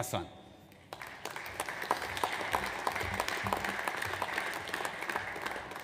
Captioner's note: audience applauds